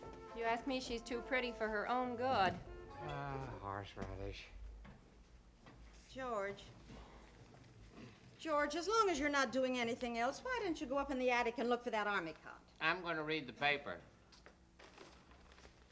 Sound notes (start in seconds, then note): 2.9 father, muttering